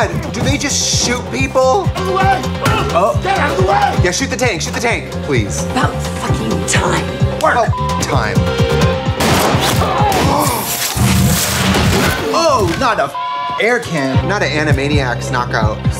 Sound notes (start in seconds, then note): 7.6 beep; 9.2 gunshots; 13.1 beep